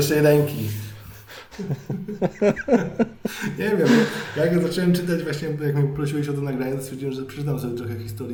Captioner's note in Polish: śmiech